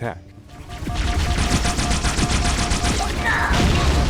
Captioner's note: Needler fire hums